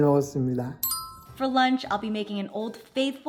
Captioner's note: bell chimes